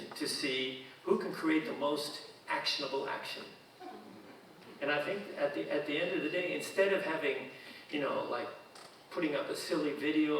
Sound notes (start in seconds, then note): 3.8 audience chuckling